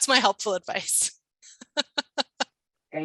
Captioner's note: chuckling; laughing